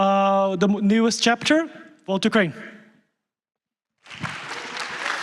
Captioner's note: applause